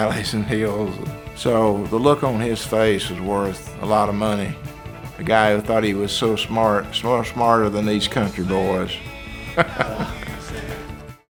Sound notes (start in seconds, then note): 9.3 laughs